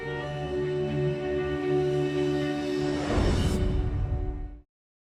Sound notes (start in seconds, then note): 0.0 gentle music; 2.8 transition whooshing